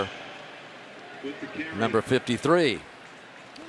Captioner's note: pa announcement